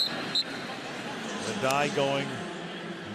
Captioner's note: whistle